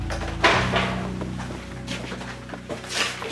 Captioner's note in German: Metallisches Klappern